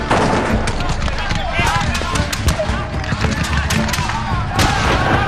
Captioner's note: guns banging; all shouting